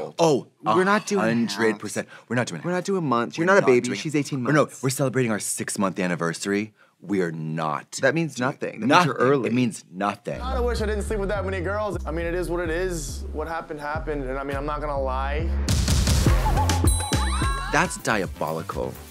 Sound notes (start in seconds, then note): 17.2 all exclaiming